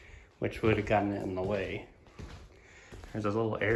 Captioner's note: footsteps